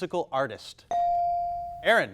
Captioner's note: buzzer dinging